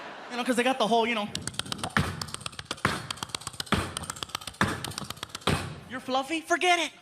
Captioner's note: clicking